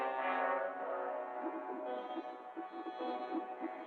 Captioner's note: bubbling